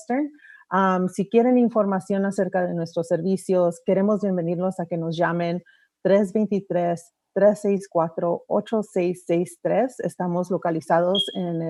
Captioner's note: remarks in spanish